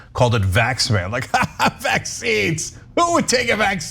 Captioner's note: laugh